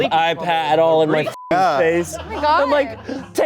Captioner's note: beep